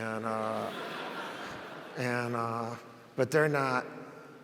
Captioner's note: audience laughs